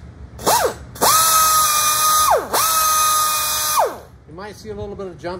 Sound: grinder buzzing

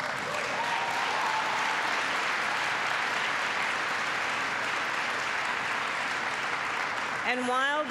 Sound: applause

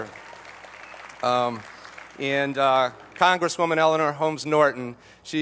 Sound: applause

